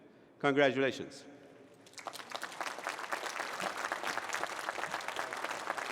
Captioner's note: applause